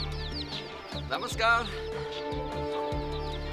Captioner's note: non-english speech